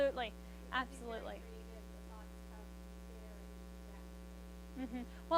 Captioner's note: speaks faintly